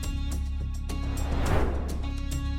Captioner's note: suspenseful music continues; transition whooshing